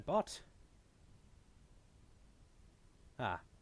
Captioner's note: silence